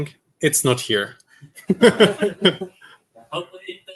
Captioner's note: laughter